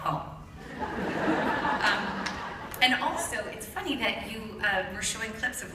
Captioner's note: laughter